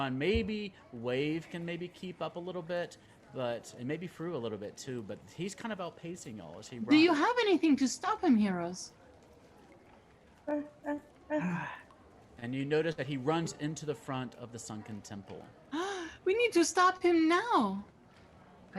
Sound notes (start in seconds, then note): 15.8 gasps